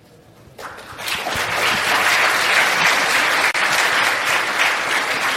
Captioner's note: audience applauding